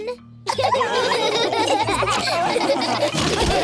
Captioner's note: laughter